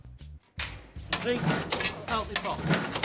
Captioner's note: clicking sounds heard from the machine